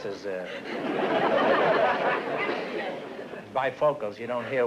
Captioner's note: laughter